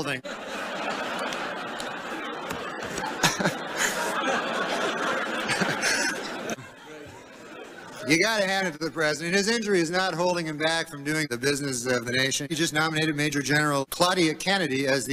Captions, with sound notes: (laughter) You have to give credit to the president. His injury has not held him back from the business of the nation. He just nominated Maj. Gen. Claudia Kennedy to